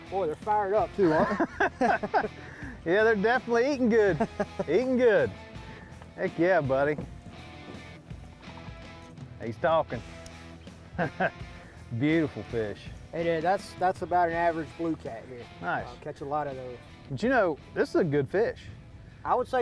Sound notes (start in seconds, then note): 1.0 laughter